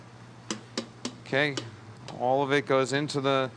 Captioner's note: tapping